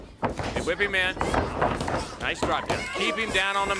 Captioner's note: body thudding